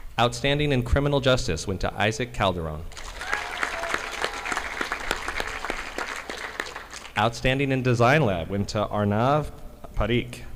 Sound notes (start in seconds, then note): 2.9 audience applauding